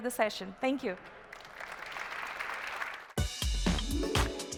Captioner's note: applause